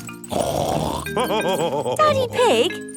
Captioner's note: snorts and laughs